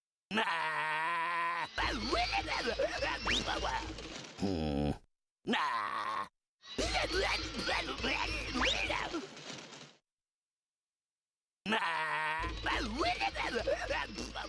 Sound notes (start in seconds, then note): 1.8 grunting; 5.5 grunting; 13.3 grunting